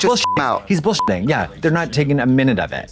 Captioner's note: beep